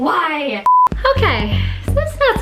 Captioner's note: screen beeps